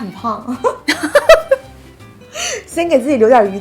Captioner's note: laughing